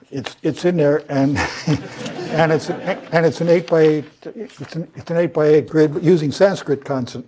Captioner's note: laugh